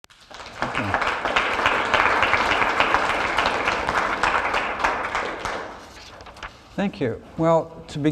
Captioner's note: applause